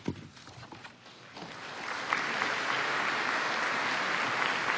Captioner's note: applause